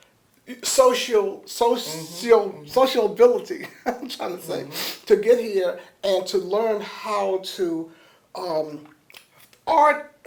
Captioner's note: laughs